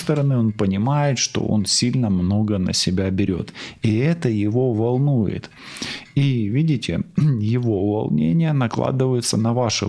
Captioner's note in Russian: откашливается